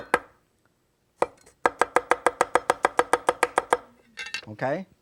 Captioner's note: knife chopping on board